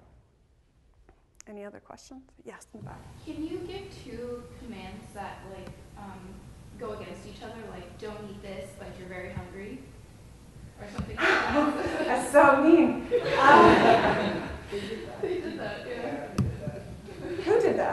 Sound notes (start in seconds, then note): 11.1 laughs; 11.2 laughter